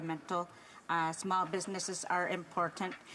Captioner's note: speaking Alternate Language